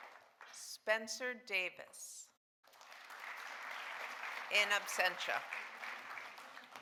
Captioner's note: audience applauding